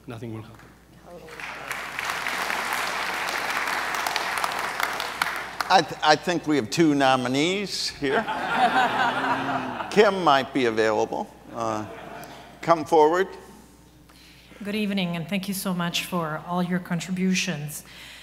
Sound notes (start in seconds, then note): 1.1 audience applauds; 8.0 audience laughs